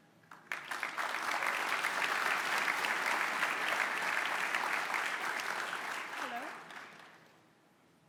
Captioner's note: applause